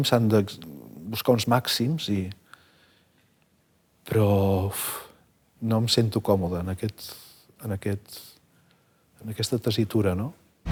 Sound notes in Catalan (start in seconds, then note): none